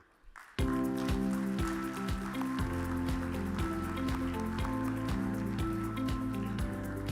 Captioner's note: audience applause; uplifting music